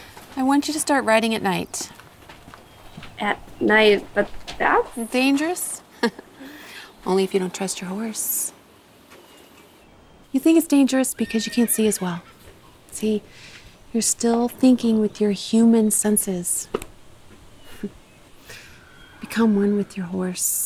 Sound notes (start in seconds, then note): 5.8 chuckles